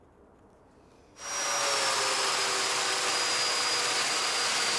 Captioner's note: machinery buzzes